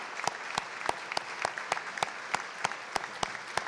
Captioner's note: applause